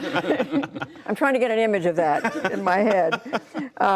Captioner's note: laughter